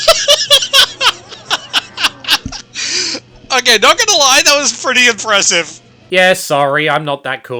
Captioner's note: laughing